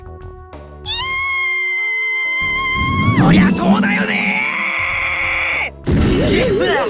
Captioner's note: panicked scream; pained groan